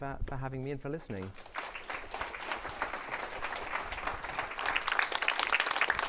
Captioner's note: applause